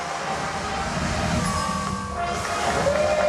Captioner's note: ding